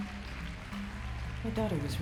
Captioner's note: applause